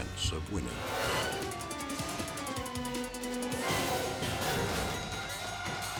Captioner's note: tense music; sirens wailing; crash clattering